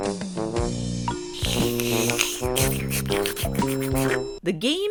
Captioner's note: slurps